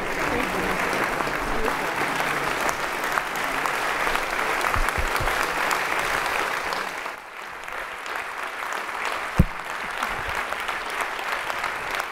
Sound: applause

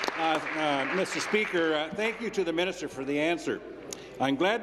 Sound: applause

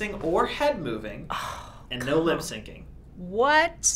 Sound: groaning

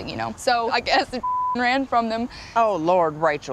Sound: beep

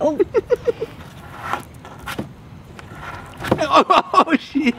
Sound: laughs

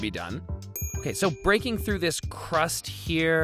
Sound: bell dings

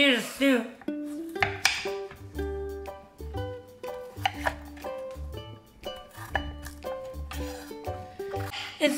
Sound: chopping

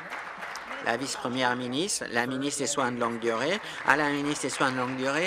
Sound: applause

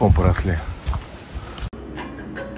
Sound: footstep sound

